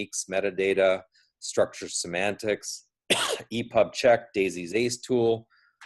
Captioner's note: coughs